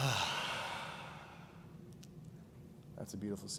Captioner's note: all exhale